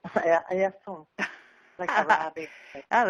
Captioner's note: laughing